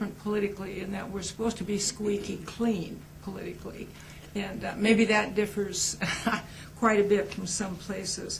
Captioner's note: laughs